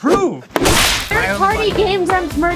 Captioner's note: whip sound